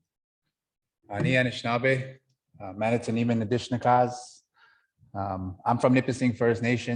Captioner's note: speaking Anishinaabemowin